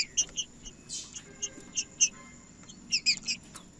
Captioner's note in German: trinca ferro cantando